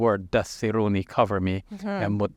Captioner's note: speaking foreign language